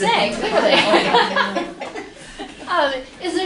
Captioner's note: laughter